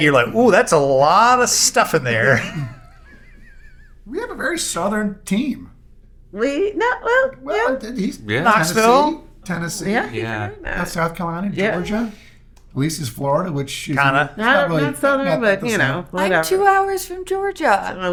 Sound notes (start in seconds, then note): 3.4 laughing